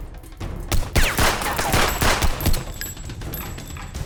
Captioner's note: gun firing